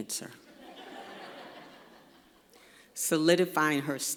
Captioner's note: laughter